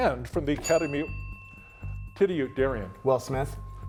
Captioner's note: bell ringing